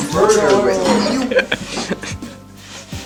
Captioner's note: laff